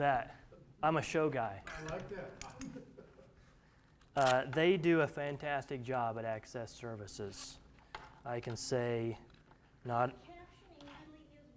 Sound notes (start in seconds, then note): 1.8 laughter